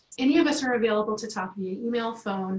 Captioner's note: Arabic